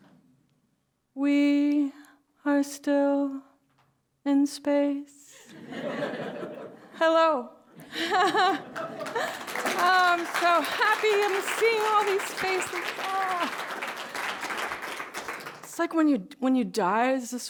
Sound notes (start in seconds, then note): 5.4 laughter; 7.6 laughs; 7.8 laughter; 8.1 applause